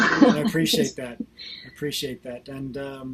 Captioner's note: laughs